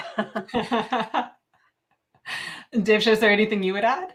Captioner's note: laughs